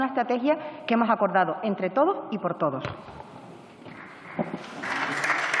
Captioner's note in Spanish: Aplausos